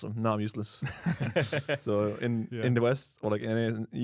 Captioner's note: laughs